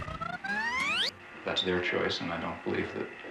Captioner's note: tape recorder squeaking